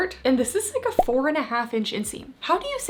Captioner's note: graphics beeping